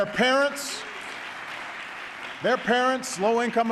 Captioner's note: applause